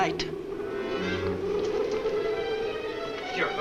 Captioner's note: muffled wind howls